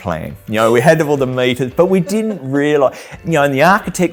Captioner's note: laughs